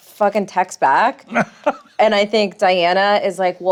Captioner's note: laughs